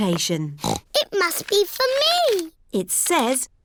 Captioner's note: snorts